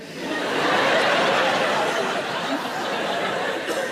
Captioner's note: audience laughs